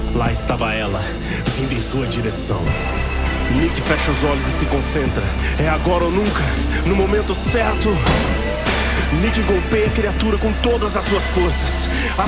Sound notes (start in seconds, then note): 8.0 metallic noise followed by breaking glass